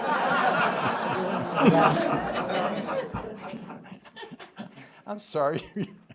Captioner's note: laughter